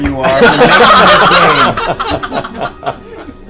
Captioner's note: all laugh